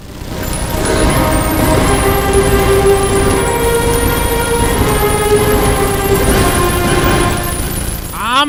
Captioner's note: machine guns firing, casings falling on concrete